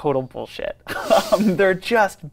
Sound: laughs

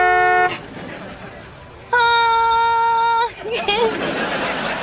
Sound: honking; giggles

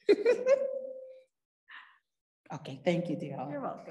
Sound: laughing

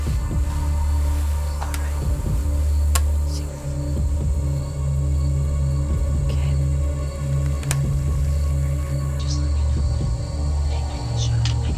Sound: whispering

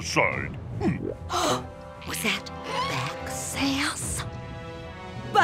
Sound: gasping

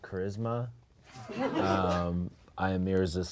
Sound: audience laughs

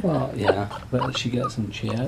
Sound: laughter

